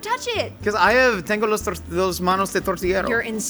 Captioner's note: speaking Spanish